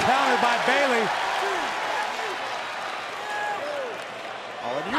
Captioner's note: crowd cheering